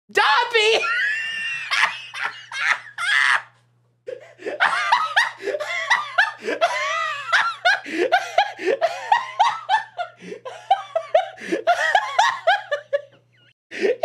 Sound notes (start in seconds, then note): 1.2 laughing hysterically; 4.6 laughter continues; 13.4 through laughter